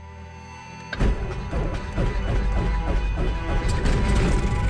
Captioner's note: engine starts